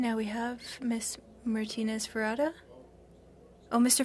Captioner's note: speaking in French